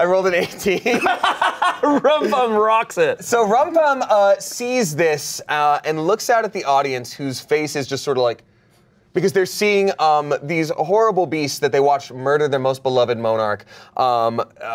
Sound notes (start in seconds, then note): 0.8 everyone laughs